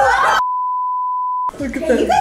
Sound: beep

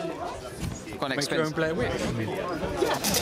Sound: laughter

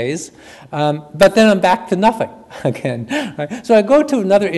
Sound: chuckles

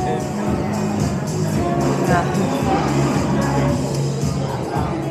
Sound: chatting

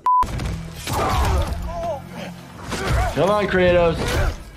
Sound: fighters groaning

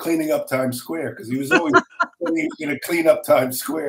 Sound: laughing

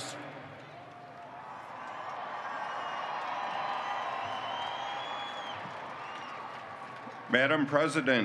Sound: cheering

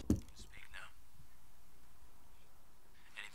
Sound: Muffled Zeeland Recording

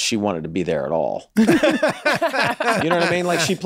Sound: laughs

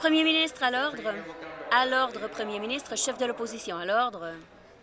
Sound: conversation din

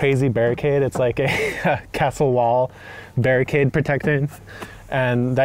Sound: laughing

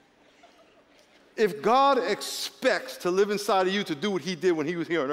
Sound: laughter

